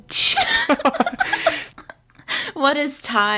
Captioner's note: laughs